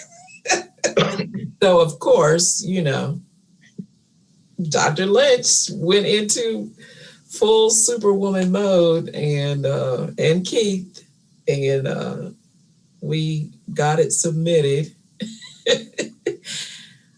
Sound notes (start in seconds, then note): 0.2 panelists laughing; 15.4 laughs